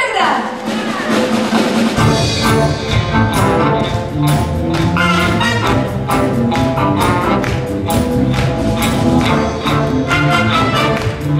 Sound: applause

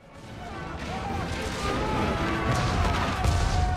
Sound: yelling

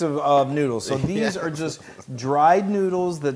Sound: laugh

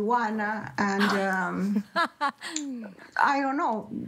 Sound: laughter

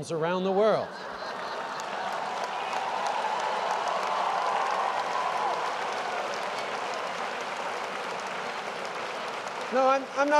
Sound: laughter & applause

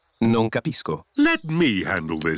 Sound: replies in italian

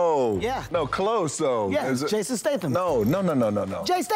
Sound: none

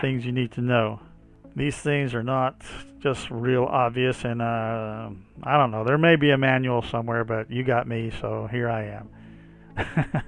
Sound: chuckles

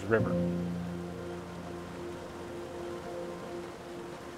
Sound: water flowing; gentle music begins

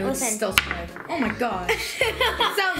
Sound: candy clunks

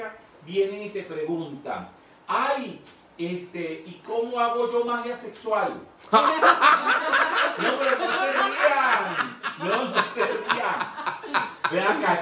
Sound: laughing

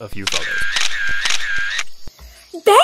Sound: camera shutter closing repeatedly

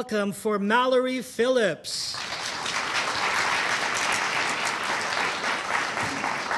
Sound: audience applauding

